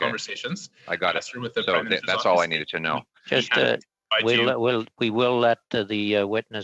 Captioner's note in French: voix de l'interprète